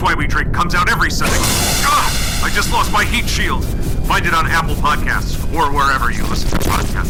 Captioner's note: an explosion